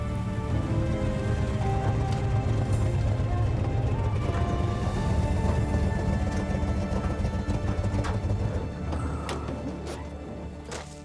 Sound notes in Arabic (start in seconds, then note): 7.4 ينطفئ المحرك